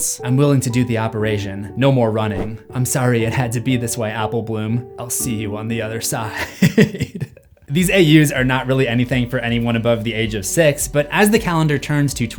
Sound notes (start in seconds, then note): 6.4 laughing